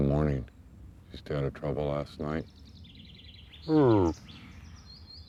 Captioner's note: grunting